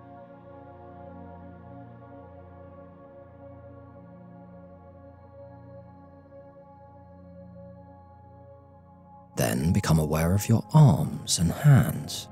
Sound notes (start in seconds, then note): 2.2 15s silence